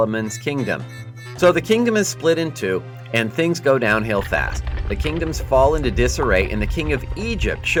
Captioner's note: structures collapsing and fire